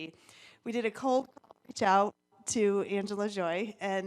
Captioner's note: audio distorts